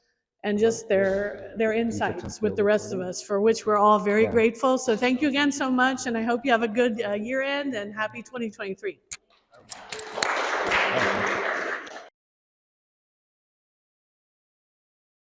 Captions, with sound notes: And just their insights with the rest of us for which we’re all very grateful. So thank you again so much and I hope you have a good year end and happy 2023! [Audience applauds]